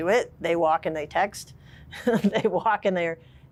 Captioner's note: laughs